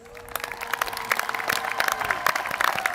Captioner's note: applause